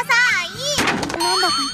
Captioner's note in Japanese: 物音